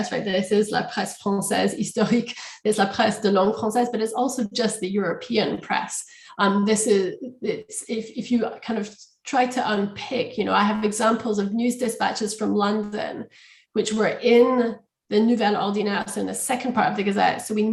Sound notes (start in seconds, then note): 3.4 french